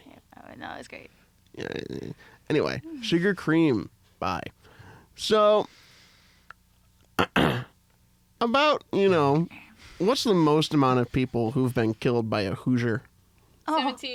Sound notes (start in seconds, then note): 0.0 whispering; 7.1 clears throat